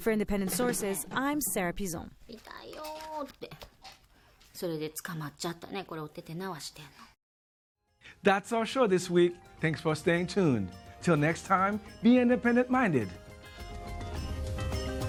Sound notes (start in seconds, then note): 2.9 woman speaking Japanese; 12.9 theme music